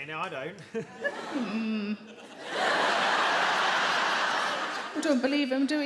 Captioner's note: audience laugh